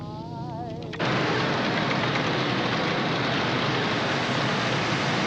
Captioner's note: loud machine whirring